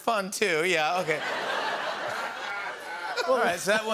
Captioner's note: laughter